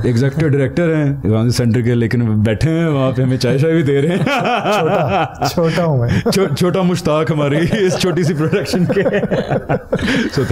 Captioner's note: laughs